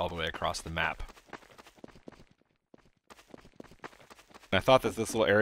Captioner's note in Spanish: sonido del Scout corriendo